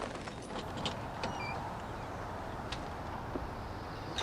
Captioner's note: door creaking